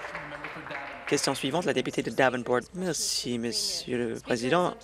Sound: applause

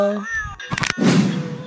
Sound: bones Cracking

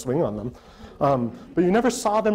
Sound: audience laughter

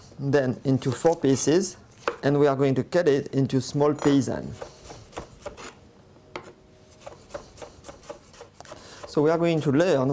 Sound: cutting sounds

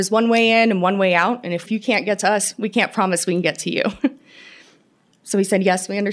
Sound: laughter

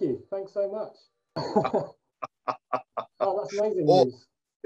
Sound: laughs

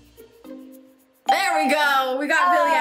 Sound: bell rings

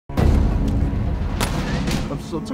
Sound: guns firing

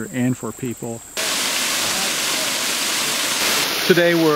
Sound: sound of waterfall hitting the water

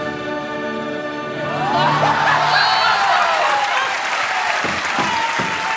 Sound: laughs

